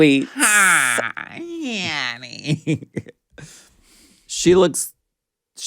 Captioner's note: laughs